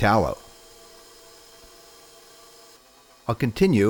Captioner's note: mixer whirring